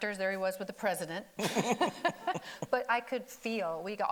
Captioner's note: laughing